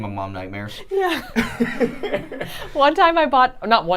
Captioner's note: laughing